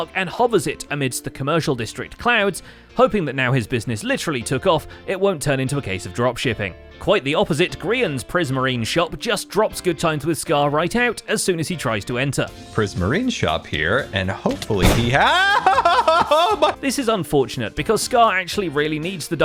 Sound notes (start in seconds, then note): 15.1 terrified shouting